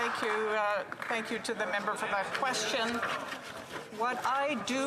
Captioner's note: applause